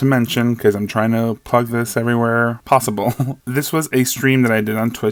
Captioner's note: laughs